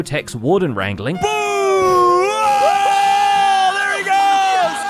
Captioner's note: hollering